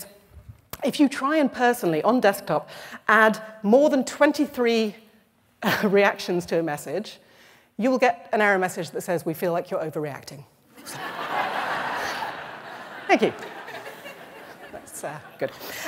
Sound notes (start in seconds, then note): 10.7 laughter